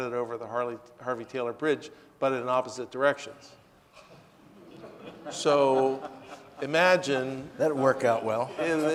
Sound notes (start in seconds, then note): 4.5 audience laughing